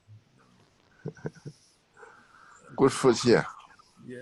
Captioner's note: laughs